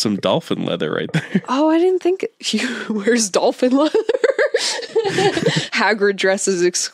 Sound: both laugh

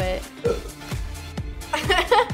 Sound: burping

